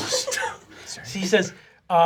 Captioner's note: laughing